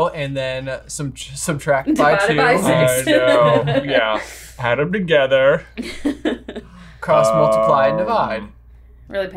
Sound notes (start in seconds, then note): 1.8 chuckles; 5.8 chuckles